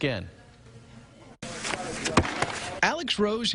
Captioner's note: nat soundá discus throw